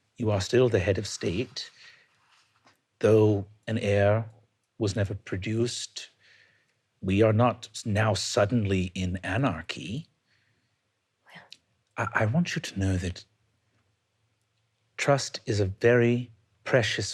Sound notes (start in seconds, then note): none